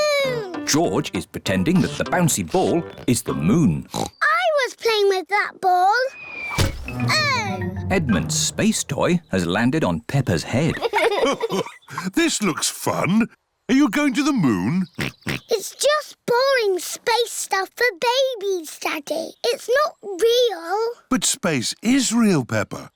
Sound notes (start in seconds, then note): 3.8 oinks; 6.4 thudding; 10.6 chuckles; 14.9 oinks